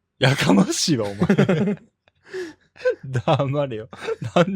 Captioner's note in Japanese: 笑い